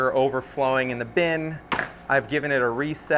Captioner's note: lid thumps